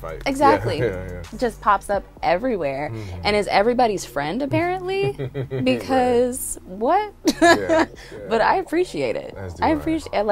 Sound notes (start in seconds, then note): 4.4 laughs; 4.5 chuckling